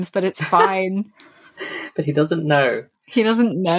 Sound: laughs

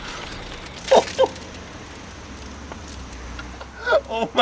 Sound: laughing

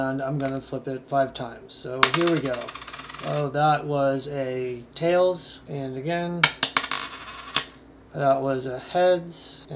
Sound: sounds of a coin flipping

